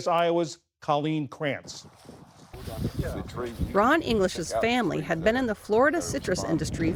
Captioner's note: voice-over